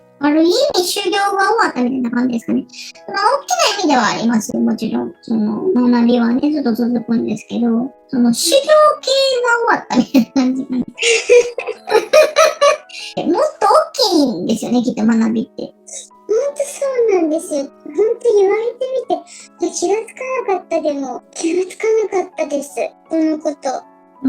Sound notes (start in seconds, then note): 10.0 laugh